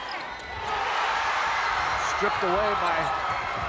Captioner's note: crowd cheers